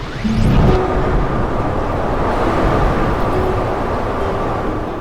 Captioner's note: words whooshing